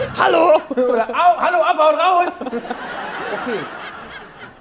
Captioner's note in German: Lachen